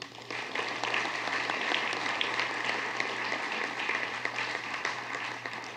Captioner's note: applause